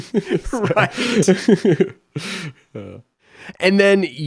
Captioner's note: laughs